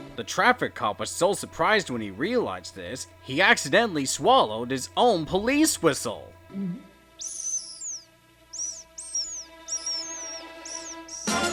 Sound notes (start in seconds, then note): 7.0 gulp; 7.2 blows swallowed police whistle